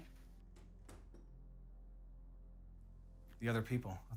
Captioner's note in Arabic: نقرات على الباب